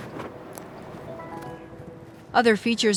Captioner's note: button blinging